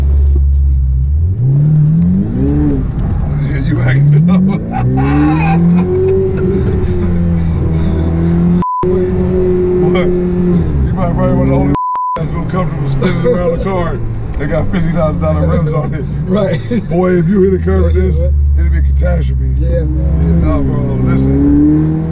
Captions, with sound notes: (engine roaring) Yeah you right. (laughing) (beeps) What? You probably wanna (beeps) real comfortable spinning around a car, that's got $50,000 rims on it. - Right - Boy, if you hit a curb in this it would be catastrophe. - Yeah man. - No, bro, listen.